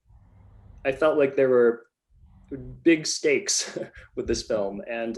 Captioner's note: laughs